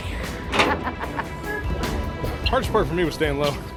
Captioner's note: laughing